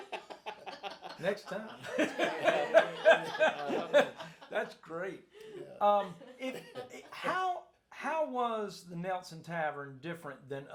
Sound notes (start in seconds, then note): 0.0 group laughs